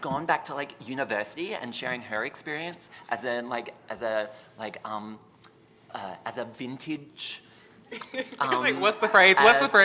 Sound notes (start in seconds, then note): 4.0 stutters; 7.9 chuckles